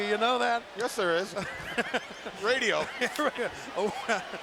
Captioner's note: laugh